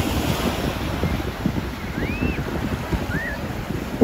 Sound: waves rushing

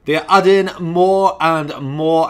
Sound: none

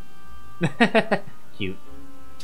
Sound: laughs

